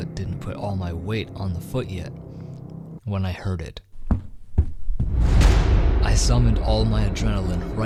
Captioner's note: loud footsteps from behind